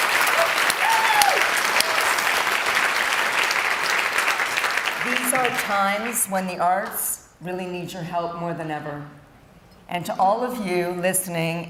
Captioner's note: cheering and Applause